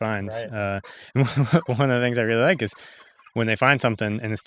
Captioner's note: giggles